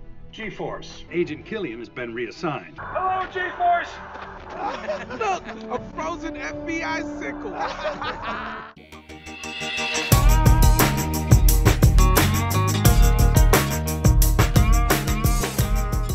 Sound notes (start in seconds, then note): 2.8 laughing; 7.3 laughing continues